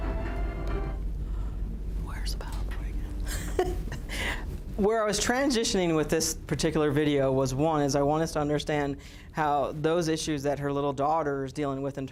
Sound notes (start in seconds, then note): 3.2 instructor laughs